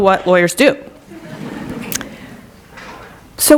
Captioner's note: laughter